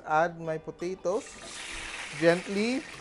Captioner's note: sizzle